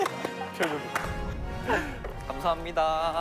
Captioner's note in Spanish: Pasos confiados